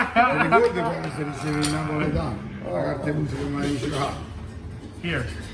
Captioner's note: laughing; speaking in foreign language